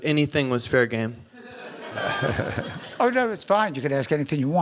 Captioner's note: laughter